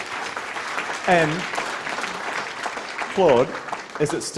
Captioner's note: applause